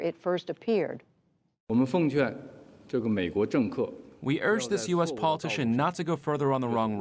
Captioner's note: through translator